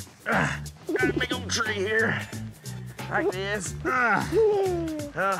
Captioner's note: giggling